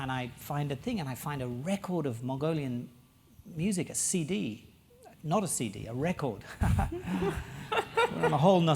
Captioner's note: laugh